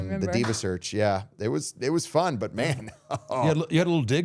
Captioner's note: laughing